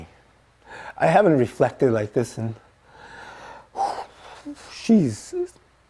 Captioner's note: exhales